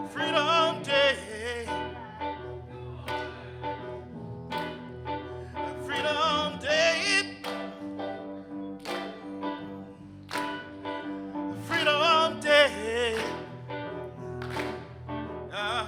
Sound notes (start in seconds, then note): 3.5 groovy music ontinues; 4.5 audience clapping; 9.0 groovy music ontinues; 10.2 audience clapping